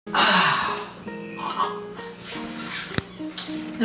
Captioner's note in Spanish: Ahhh